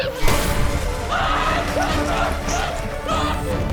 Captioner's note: screaming